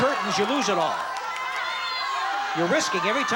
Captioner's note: audience shouting